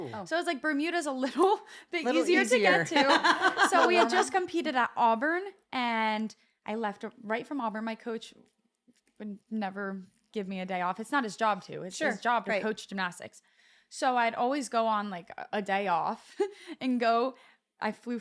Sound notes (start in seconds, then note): 2.7 laugh